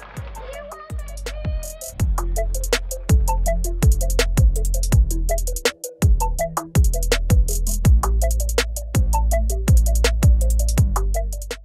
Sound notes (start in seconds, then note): 2.7 audience clapping; 6.0 energetic music